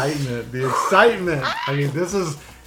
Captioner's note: squealing